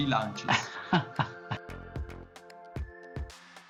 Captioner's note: laughs; intro music